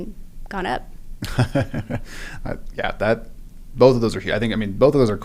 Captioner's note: laugh